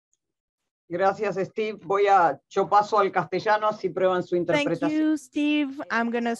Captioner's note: speaking in a foreign language